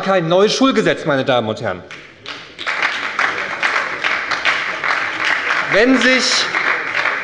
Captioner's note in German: Beifall bei der SPD